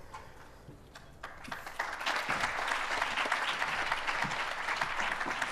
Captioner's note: applause